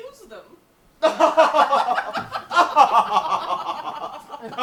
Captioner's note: both laugh